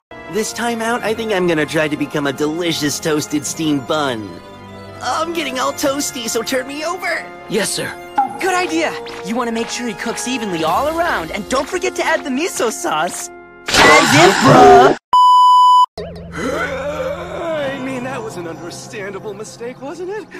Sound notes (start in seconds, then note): 15.1 static beep sound; 16.3 old man wheeze